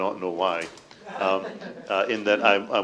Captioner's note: laughter